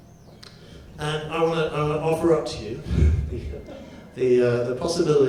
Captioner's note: laughs